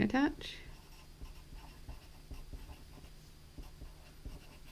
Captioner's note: pen scratching